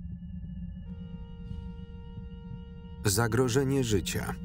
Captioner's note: alarm sounding